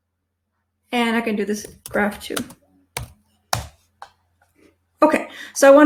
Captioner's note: keyboard clicking